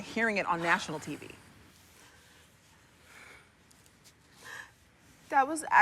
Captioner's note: takes deep breath